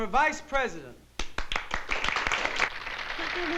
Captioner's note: applause